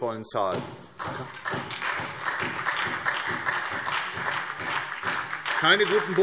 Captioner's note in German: Beifall SPD